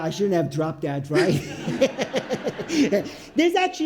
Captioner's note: audience laughs